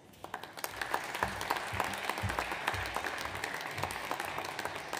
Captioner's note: audience applauds